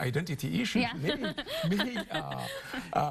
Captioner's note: chuckling